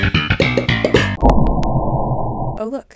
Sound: distortion

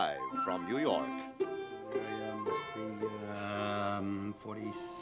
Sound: Charlie Gordon talking to himself while music fades out

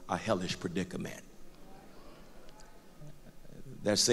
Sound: crowd murmur

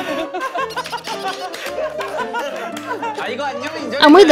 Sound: the person who did it is also laughing

